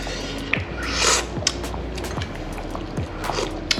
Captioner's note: slurping sound